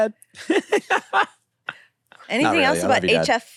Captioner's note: laughs